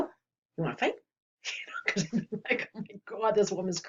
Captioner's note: laughs